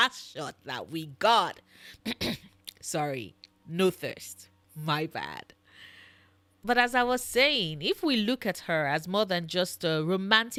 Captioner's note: clears throat